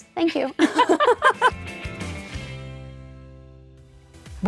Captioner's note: laughing